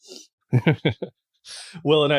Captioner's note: laughs